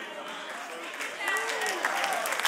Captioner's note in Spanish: Aplausos